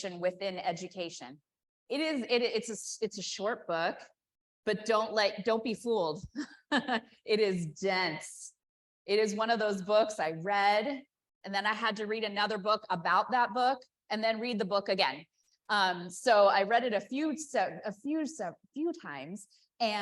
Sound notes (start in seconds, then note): 6.4 chuckles